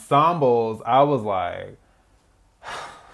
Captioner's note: sigh